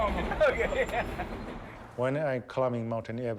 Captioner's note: laughs